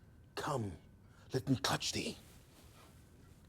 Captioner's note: none